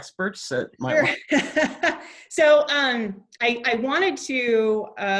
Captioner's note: laughs